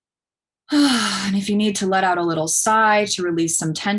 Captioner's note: sighs